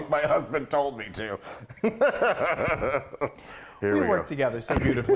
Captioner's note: laughing